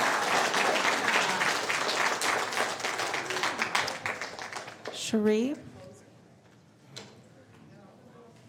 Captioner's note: applause